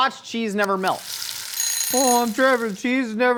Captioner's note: alarm Clock Ringing